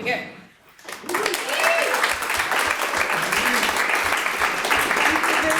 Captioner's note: audience applauds